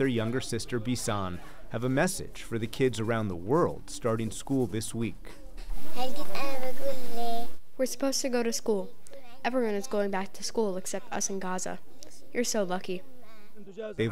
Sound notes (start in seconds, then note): 6.7 through translator